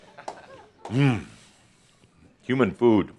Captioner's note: laughter